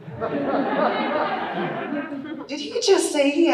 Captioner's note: audience laughing